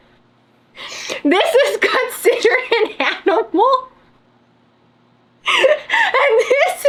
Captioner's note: laughs